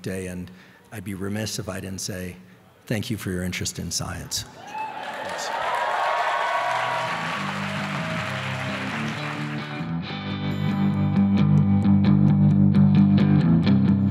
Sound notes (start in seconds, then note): 4.6 audience cheering and applauding; 9.9 upbeat music playing